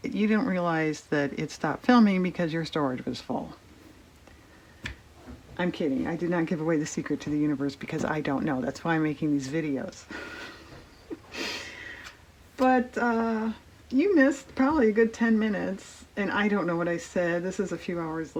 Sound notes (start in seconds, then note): 10.2 laughs